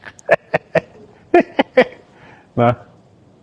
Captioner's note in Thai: เสียงหัวเราะ